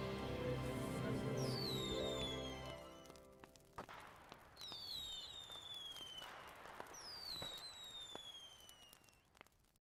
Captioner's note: fireworks shooting and exploding. Log fire crackling